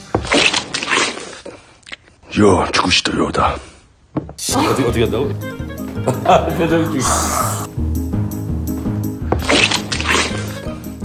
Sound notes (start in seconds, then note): 6.0 giggling